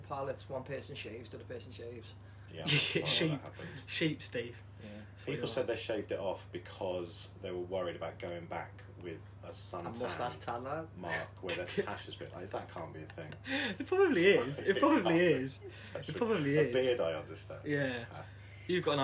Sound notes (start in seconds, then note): 2.7 laughter; 17.8 laughter